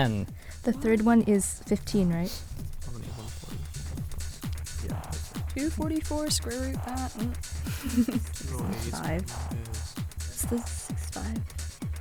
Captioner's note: wispering